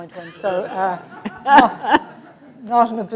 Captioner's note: laughter